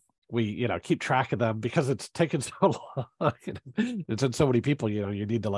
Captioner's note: laughs